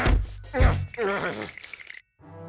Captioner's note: shivering